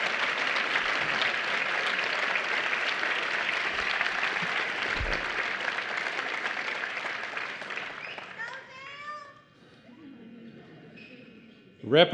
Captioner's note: applause